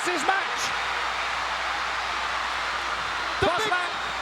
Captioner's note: crowd cheering